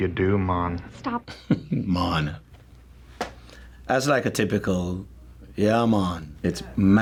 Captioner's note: chuckles